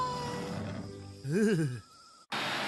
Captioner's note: Alejandro Shivering